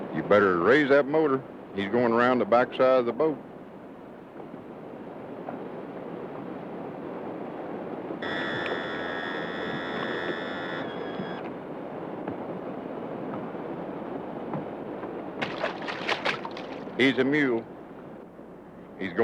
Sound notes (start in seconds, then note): 8.2 motor buzzing; 17.0 splashing sounds